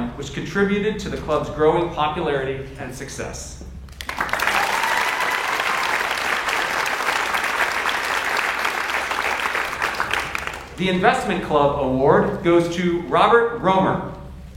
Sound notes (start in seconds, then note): 4.0 audience cheers and applauds